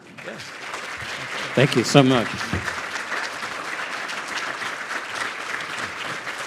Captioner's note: audience applauding